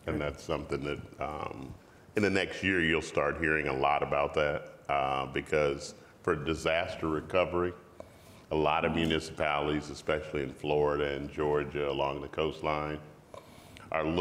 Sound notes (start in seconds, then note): none